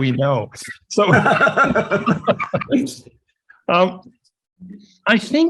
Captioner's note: laughs